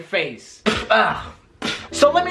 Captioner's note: spits